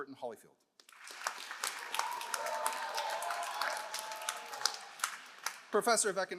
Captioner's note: all applauding; all cheering